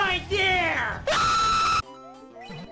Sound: Luigi_Screams_of_Terror.wav

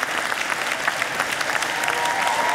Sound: audience cheering

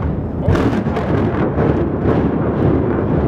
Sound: implosion

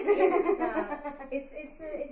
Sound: all laughing

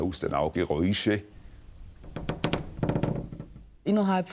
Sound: repeated creaks

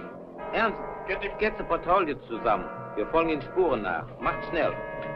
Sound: speaking in a foreign language

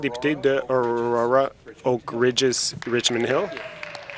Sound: some Applause

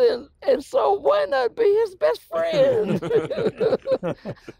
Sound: laughs; laughing

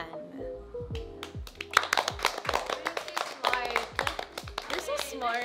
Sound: all clapping

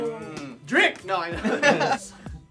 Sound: laughter

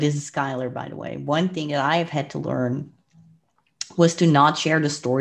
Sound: clicks tongue

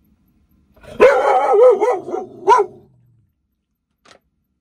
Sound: Camper barking

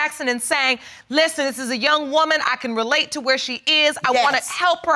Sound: none

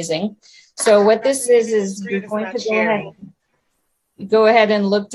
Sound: overlapping chatter

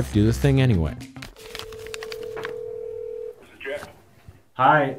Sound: phone ringing

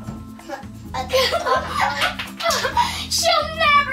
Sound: laughs

